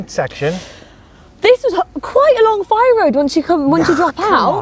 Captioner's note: inhale